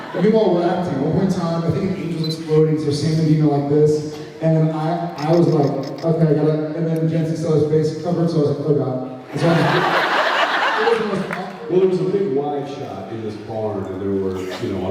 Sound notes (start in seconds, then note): 9.4 laughs